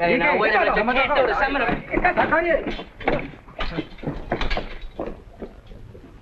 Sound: fighting sounds

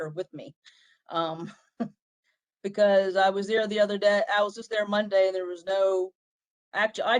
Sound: laughter

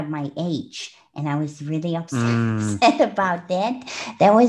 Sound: laughs; breath

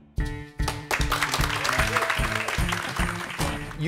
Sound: applause

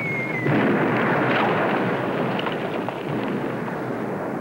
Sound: explosion

